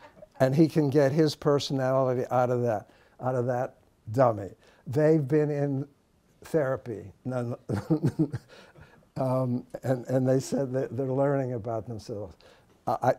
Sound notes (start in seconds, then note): 7.6 laughs